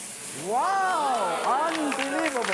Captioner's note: audience wows